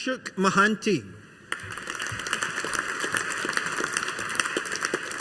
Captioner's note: audience applauding